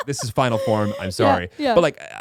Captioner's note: laughing